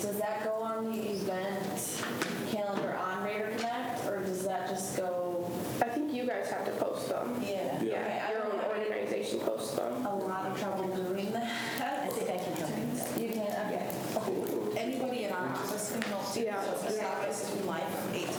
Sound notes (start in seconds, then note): 10.3 students chatter